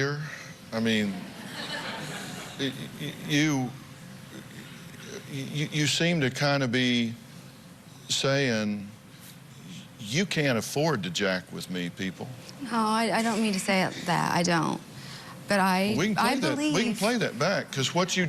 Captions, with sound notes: I mean-- [laughter] You seem to kind of be saying you can't afford to jack with me, people. No, I don't mean to say that, I don't. But I believe-- We can play that back because what you just